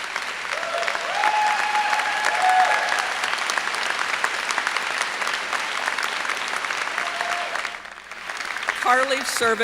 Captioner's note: applause